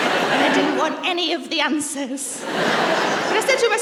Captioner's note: laughter; laughter